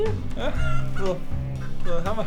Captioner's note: cluck